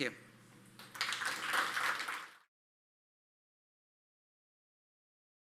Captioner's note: audience applauding